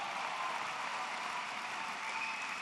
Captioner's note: applause